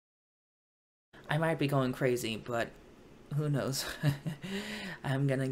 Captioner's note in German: lacht